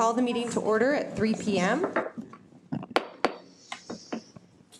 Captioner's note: gavel bangs